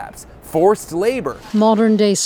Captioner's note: female newscaster voiceover